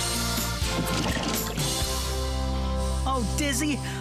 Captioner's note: splosh!